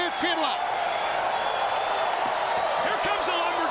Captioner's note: crowd whooping